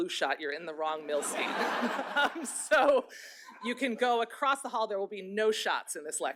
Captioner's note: laughter